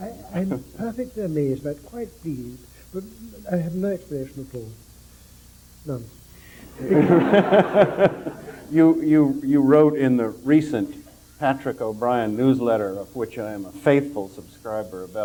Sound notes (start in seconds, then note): 6.6 general laughter